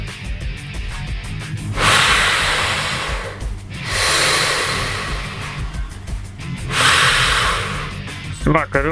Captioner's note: heavy breathing through gas mask